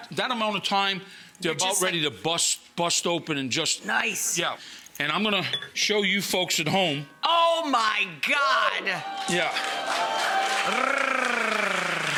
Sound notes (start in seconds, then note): 8.9 audience cheers; 10.8 Rachel purring